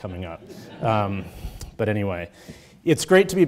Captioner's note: audience chuckles